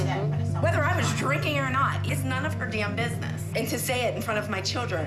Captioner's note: none